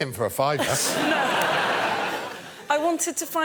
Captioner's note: laughter